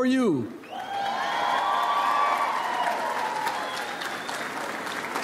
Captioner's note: audience applauds